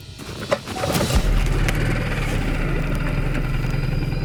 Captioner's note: engine clicks; engine purrs